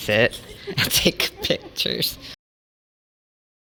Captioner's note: both laughing; quiet